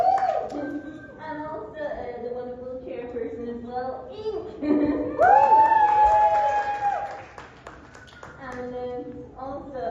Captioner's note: applause; applause